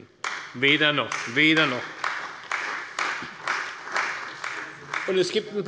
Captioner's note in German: Beifall bei Abgeordneten der CDU